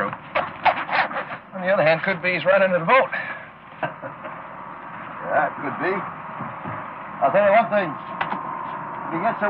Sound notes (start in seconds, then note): 3.7 laughing